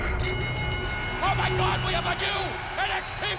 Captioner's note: bell ringing